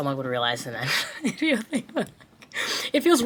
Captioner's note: chuckles